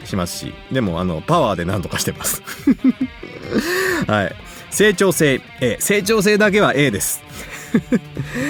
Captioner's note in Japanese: 笑い; 笑い